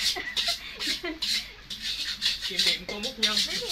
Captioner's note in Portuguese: Tiếng cười, tiếng động